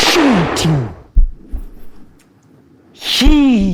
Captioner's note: gunshot